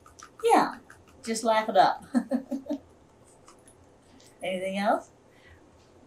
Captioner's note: laughs